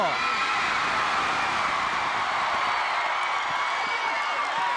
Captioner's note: audience cheering